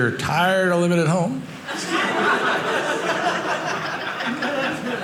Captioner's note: audience laughing